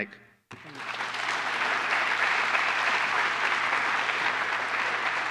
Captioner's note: applause